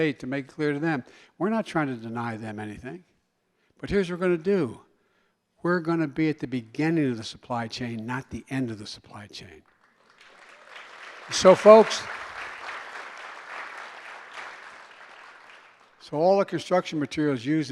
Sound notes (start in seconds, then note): 9.6 applause